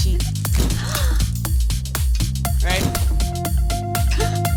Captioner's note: gasping